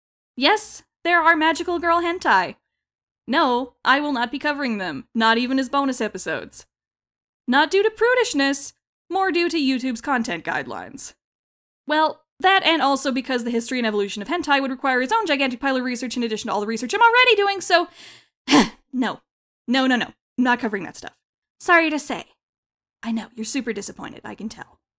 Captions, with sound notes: Yes, there are magical girl hentai. No, I will not be covering them! Not even as bonus episodes. Not due to prudishness-- more due to Youtube's content guidelines. Well, that and also because the history and evolution of hentai would require its own gigantic pile of research in addition to all the research I'm ALREADY doing so. (quick exhale) No, no no, no. I'm not covering that stuff. Sorry to say. I know, you're super disappointed, I can tell.